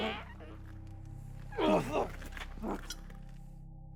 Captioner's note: Igor groaning